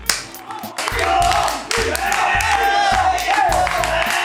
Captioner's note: cheering and applause